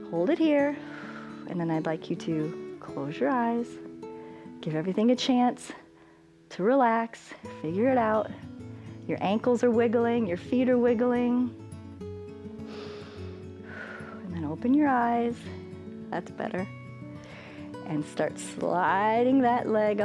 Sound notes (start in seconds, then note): 12.6 inhales and exhales